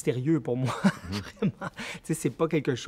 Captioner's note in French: rires